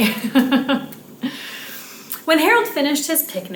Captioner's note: laughs